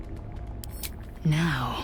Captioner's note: click